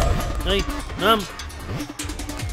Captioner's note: Speaking in Arabic